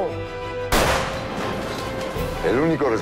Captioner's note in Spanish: Disparo